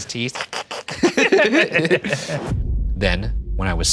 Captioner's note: both laughing